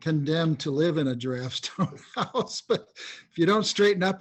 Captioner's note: laughs